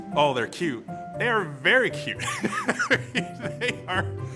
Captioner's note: laughs